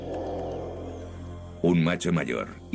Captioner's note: groan